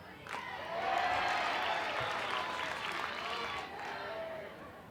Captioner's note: crowd cheers